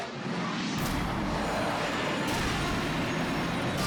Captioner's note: engines roar